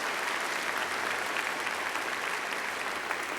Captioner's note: applause